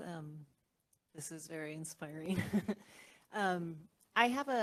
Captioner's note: laugh